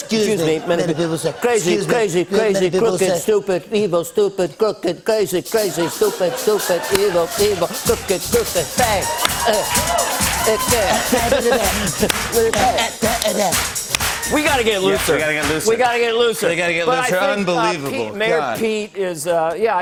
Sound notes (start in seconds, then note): 9.5 speaking gibberish; 10.4 laughs; 10.4 speaking gibberish